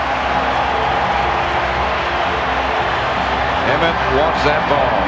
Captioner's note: crowd cheering